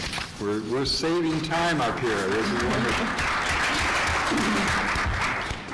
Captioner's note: applause